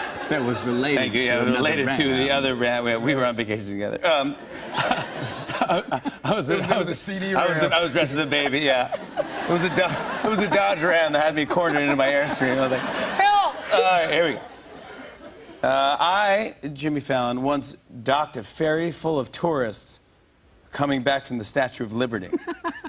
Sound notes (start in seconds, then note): 7.3 laughs; 22.7 laughing